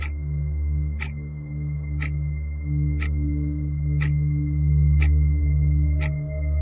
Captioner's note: eerie gentle music continues; clock ticking continues